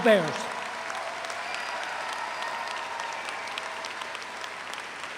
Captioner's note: audience applauds